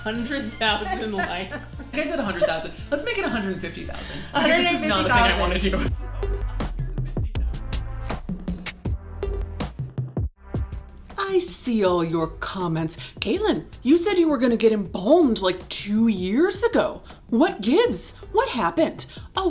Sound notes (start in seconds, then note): 0.0 bell dinging; 3.1 bell dinging; 7.0 relaxing music